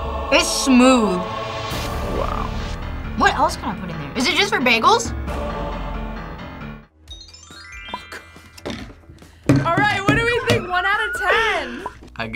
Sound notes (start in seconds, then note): 8.4 whispers